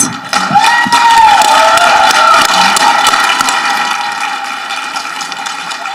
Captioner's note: people applauding and cheering